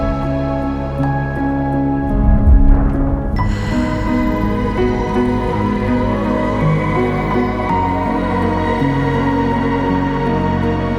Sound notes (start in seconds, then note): 3.3 ethereal music continues; 3.4 sigh